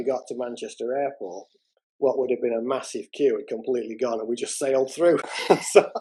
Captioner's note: laughter